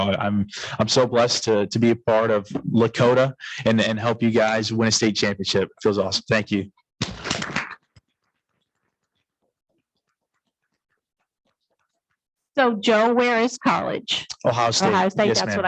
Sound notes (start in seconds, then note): 7.0 audience clapping